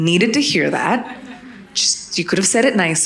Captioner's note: audience laughing